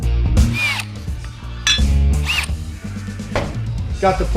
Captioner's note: drilling